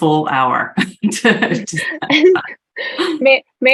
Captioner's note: laughing